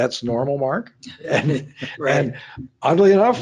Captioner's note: laughs